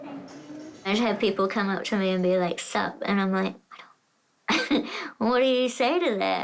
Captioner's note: laughs